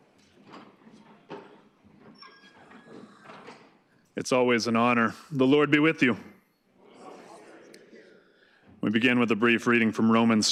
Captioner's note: gavel banging